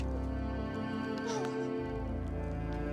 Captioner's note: Bridget crying